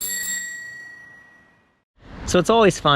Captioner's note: bell rings